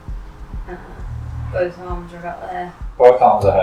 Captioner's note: groans